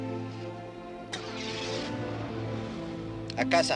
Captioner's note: engine starts revving